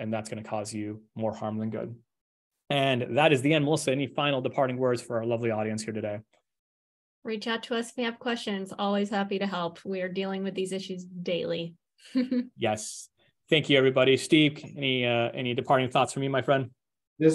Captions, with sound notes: and that's going to cause you more harm than good. And that is the end. Also, any final departing words for our lovely audience here today? - Reach out to us if you have questions. Always happy to help. We are dealing with these issues daily. (chuckles) - Yes. Thank you, everybody. Steve, any departing thoughts from you, my friend?